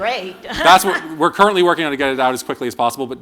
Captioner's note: laughter